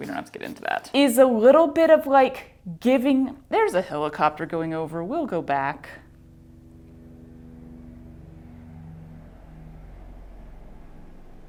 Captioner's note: loud helicopter noise